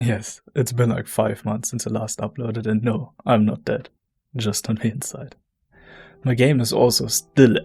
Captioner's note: very erotic and soothing voice reading the words